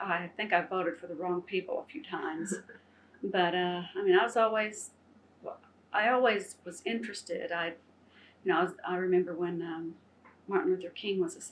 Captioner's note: laughter